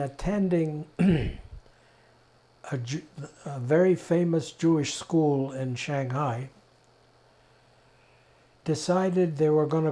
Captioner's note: clears throat